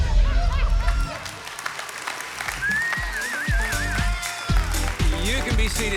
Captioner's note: congregation clapping and whistling